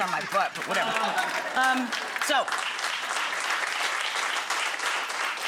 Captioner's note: audience applauds